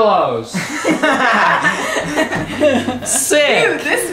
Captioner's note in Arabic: الجميع يضحك